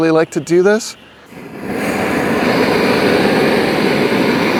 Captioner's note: torch roaring